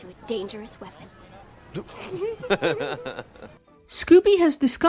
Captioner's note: Fred and Velma laugh